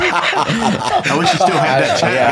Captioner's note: laughing